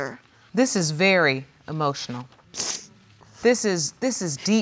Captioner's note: sniffles